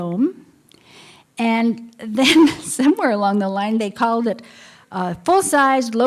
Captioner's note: laughter